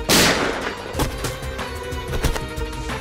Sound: gun shots; thud on ground

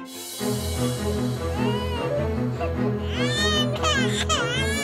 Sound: baby crying

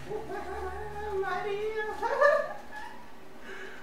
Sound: laughs

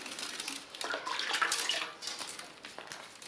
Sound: water splashes

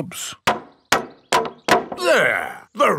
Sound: hammering

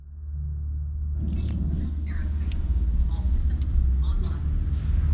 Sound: on the radio

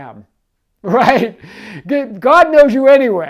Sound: chuckling

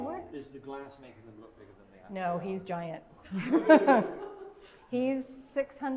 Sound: laughter

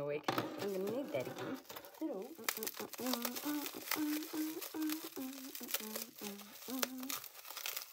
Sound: hums to herself

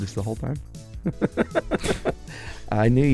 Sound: laughs

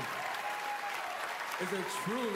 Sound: cheering, applause

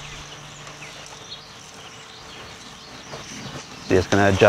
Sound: robot engine running

